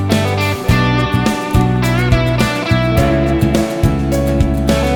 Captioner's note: clap